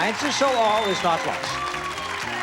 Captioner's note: audience applauds